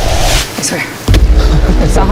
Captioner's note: laughs